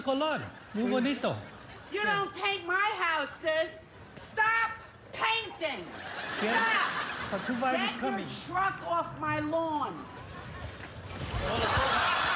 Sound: speaking spanish

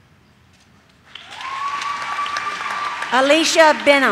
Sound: audience cheers

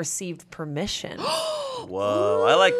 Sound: gasps

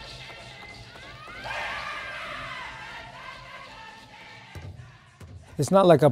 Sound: faint shouting; marching band chanting

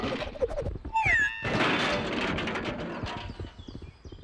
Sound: crashing

